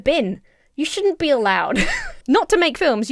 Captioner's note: Emma laughs